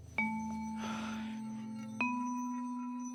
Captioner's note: sighing